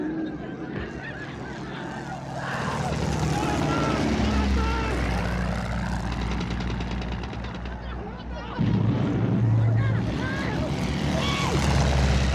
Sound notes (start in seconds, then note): 2.2 guns firing; 2.3 screaming